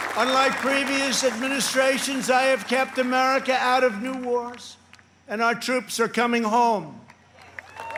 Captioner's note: applause